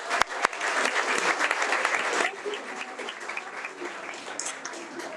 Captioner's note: audience applauding